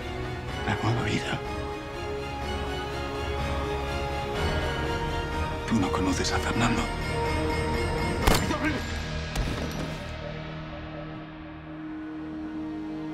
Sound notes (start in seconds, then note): 8.2 gunshot